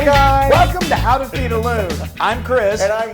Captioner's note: laugh